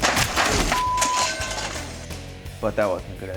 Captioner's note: beep